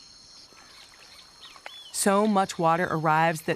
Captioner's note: birds squawking